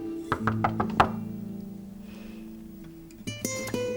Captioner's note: knocking